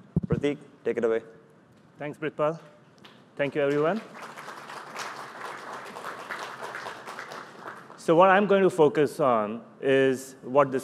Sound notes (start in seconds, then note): 3.4 applause